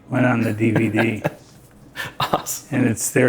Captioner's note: laughing